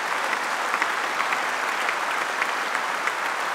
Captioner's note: applause